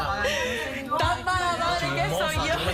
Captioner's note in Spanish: Hablan al unísono